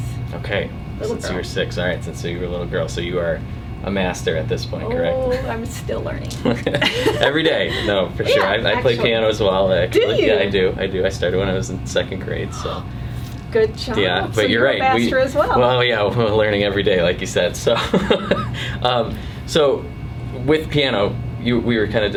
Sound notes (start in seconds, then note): 6.4 laughter; 17.7 laughter